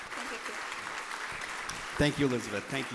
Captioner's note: audience applauding